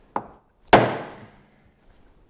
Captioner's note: banging